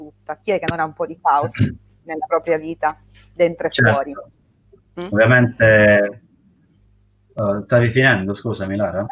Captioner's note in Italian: schiarire la voce